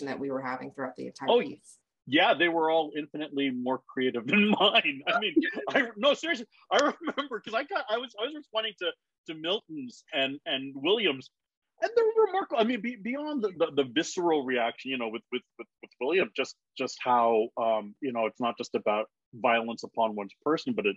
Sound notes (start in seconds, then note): 4.0 laughs